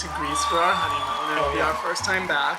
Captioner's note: cheering